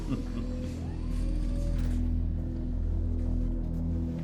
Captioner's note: laughing; whirring; dramatic orchestral music